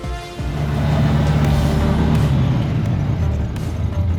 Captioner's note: engine rumbling